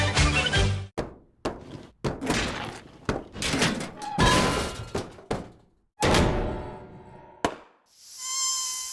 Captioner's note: sound of bouncing ball; sound of ball losing air